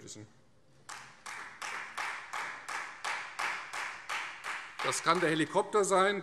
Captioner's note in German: Beifall Freie Demokraten